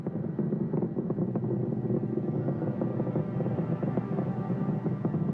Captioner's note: rocket engine growling